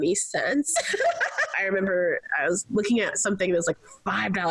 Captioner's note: laughs